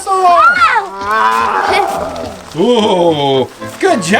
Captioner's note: roars